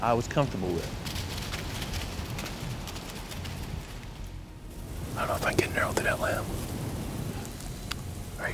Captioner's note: whispering